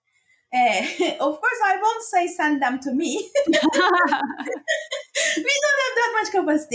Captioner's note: laughs